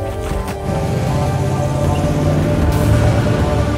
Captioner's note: engines revving